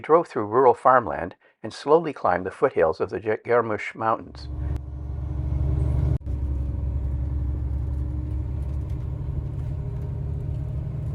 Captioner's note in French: bruit du moteur